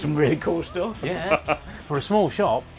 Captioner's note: laughs